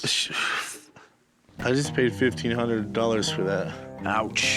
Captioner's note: exhales